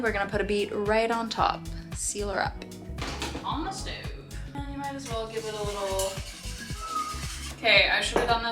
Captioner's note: whistle